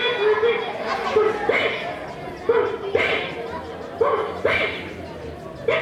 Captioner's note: puppet sneezing